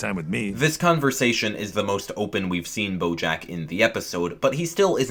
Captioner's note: voiceover